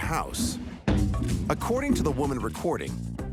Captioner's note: ball banging